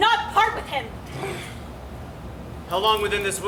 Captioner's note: Oberon growls